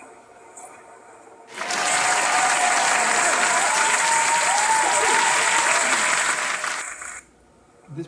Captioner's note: audience applause